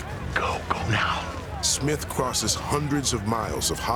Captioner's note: whispers